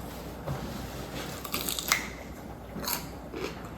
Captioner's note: Crunch